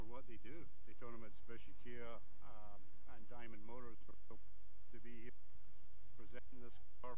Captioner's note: feedback drowning out speech